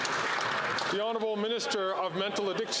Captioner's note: some Applause